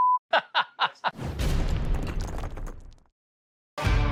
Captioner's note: beep; laughing; slam!!!; upbeat music